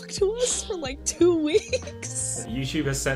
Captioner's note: laughs